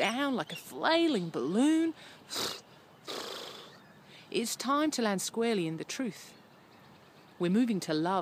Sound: pppfff pffff

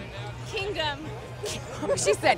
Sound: laughs

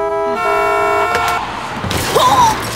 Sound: horns blowing; car crashing; woman groaning

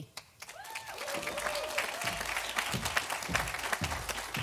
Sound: audience applauding

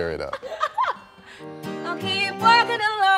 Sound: laughing

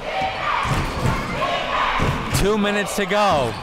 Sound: crowd

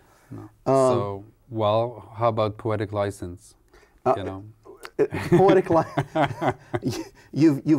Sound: laughs

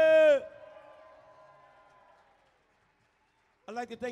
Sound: audience cheering

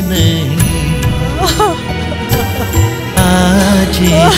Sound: crying

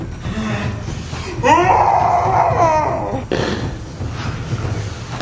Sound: screams slowly

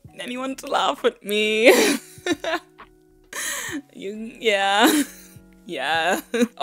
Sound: laugh nervously

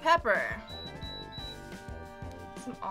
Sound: machine beeping

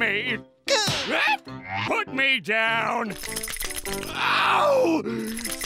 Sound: shrieking

